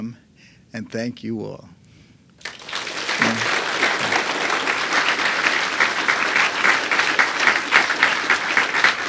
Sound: applause

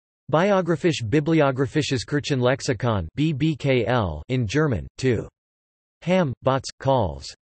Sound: in German

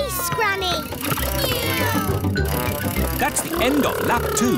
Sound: kids imitating vehicle sounds

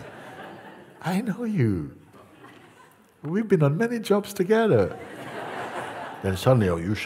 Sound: laughter

